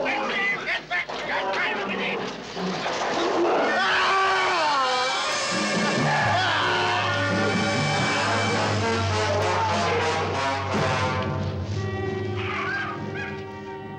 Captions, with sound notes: - Get back! Get back! (screaming) (dramatic orchestral music)